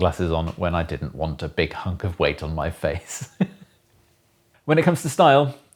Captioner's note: laughs